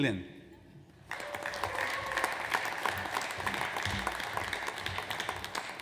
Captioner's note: audience applauds